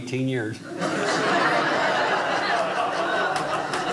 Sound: audience laughing

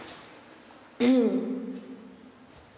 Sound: clears her throat

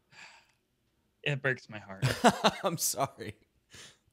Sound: laughing

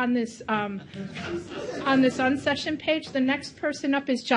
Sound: audience chatter

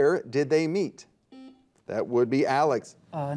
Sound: buzzer dings

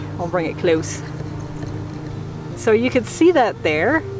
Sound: camera squeaking

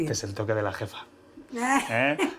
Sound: laughs

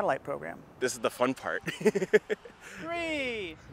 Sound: laughter

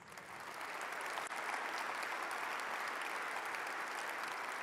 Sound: audience applauds

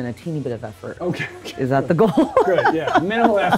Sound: laughs

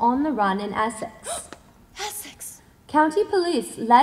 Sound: gasp

